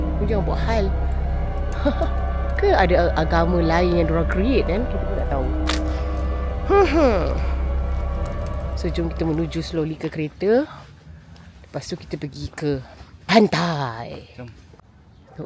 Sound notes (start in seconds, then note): 1.7 laugh